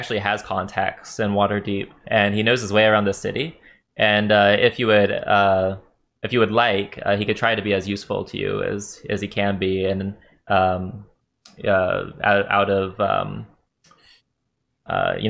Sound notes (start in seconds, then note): none